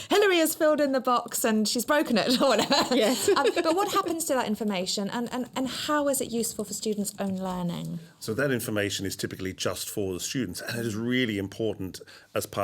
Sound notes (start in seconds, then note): 2.3 laughs